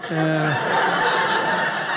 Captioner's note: audience laughing